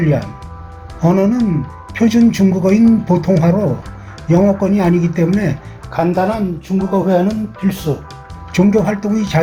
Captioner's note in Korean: 普通話